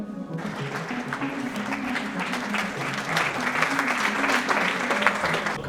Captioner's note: audience clapping